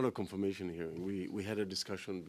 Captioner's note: speaking French